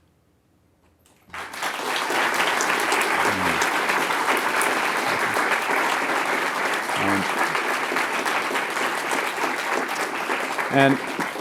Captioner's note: applause